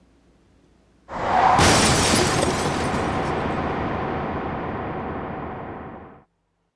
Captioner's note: tires screeching; glass shattering